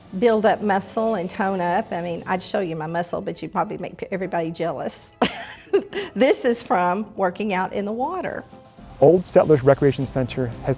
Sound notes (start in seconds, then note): 5.2 chuckles